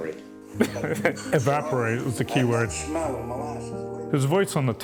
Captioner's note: laughing